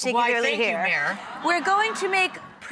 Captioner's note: audience ah